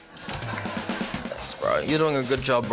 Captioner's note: laughter